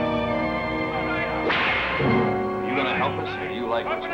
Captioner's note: whip cracks